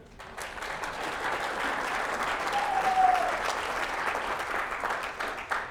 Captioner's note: applause, cheers